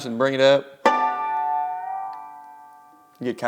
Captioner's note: sharp chimes